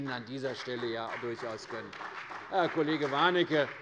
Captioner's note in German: Beifall bei der CDU und dem BÜNDNIS 90/DIE GRÜNEN